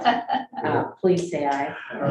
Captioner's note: people laughing